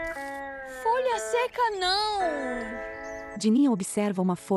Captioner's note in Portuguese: Pássaros